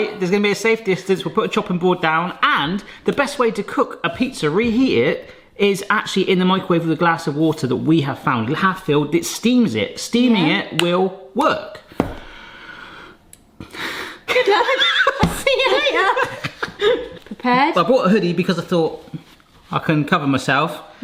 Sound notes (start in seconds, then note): 12.2 inhales; 14.4 laughs